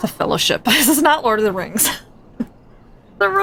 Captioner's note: laughs